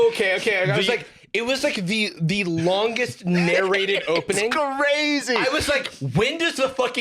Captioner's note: laughing